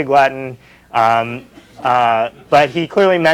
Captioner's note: laughter